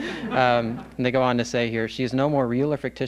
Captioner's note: laughs